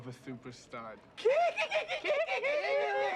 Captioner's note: make monkey noises